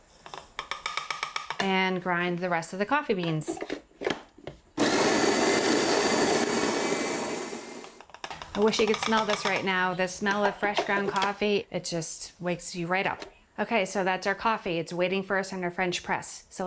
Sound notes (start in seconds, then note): 0.5 tapping; 4.8 whirring